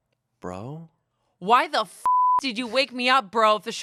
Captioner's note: beep